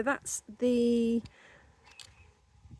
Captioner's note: none